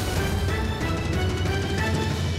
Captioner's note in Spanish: explosión